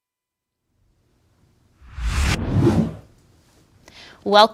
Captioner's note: swoosh